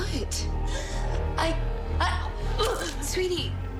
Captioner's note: vomiting